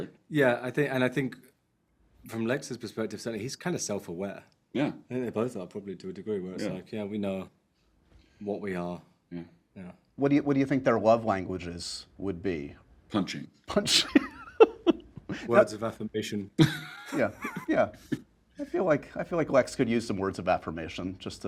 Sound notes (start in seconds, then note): 13.7 laughing